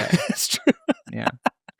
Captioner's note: laughing